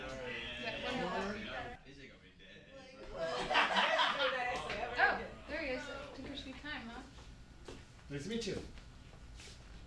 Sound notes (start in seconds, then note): 3.2 class talking once again